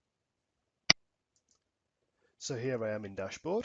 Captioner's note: mouse clicking